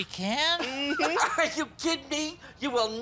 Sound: laughs

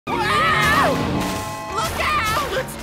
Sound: screaming

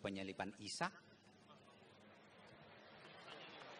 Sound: applause

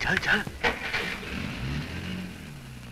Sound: car Engine Start

